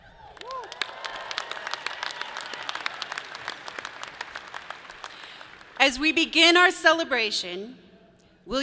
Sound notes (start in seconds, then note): 0.0 people cheer; 0.2 audience claps